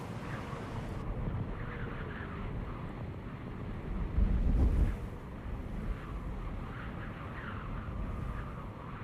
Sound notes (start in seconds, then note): 1.1 snow blowing